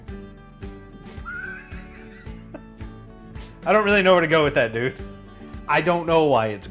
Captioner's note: laughs